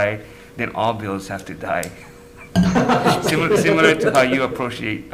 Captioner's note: people laughing